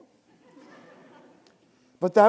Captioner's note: students laughing